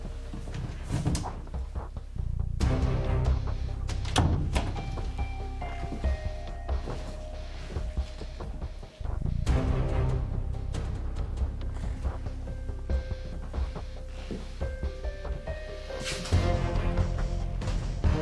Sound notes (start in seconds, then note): 4.5 cupboards thudding; 4.5 dramatic music